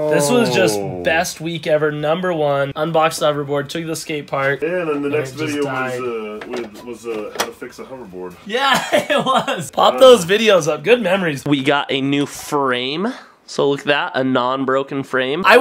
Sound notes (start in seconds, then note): 8.5 laughs